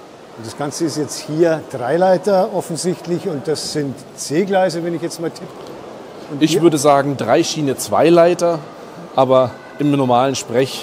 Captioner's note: laughs briefly